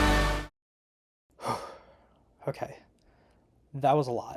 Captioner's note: exhale